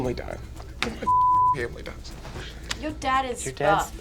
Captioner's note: beep